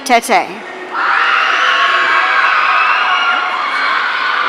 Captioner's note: audience cheering